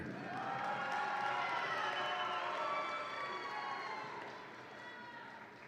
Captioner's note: audience applauds and cheers